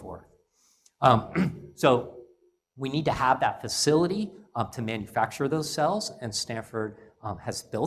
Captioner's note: cough